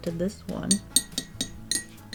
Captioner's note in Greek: Χτύπημα